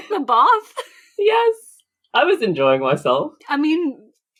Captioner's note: laughs